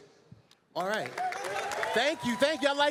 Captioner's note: applause